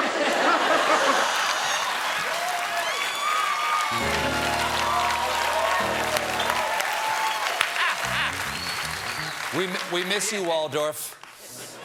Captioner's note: cheers and applause